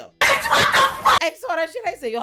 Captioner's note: laughing